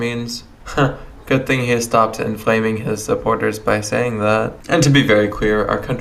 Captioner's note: chuckles nervously